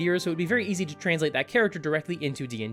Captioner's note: none